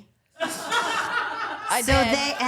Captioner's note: all laughing